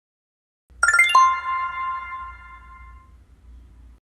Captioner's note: BeReal Notification